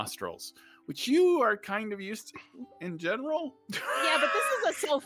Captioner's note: laughs